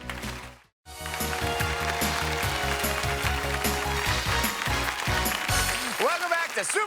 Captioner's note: audience applauds; upbeat game show music